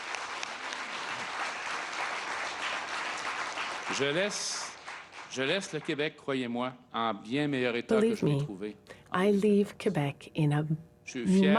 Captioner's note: applause